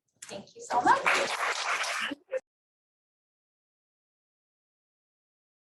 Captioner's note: applause